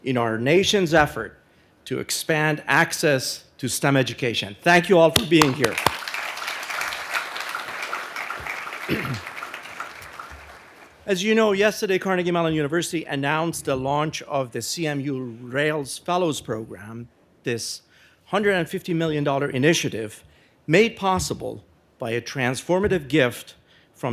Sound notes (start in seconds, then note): 5.2 audience applauding